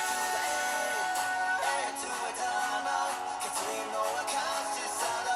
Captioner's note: applause